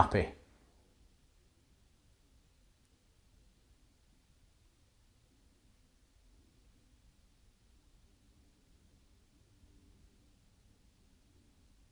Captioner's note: silence